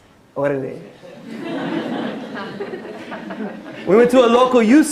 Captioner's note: non-english speech